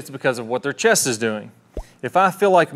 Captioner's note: notification popping in corner